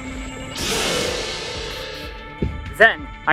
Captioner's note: gadjiltron roar